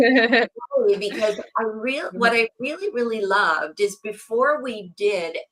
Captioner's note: laughs